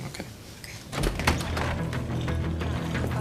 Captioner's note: door opens